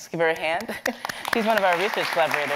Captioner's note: audience applauding